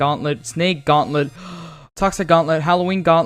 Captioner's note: breathes in and out heavily, then quickly inhales